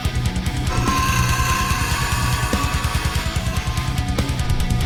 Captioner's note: scorpion beast shrieks